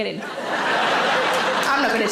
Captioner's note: audience laughs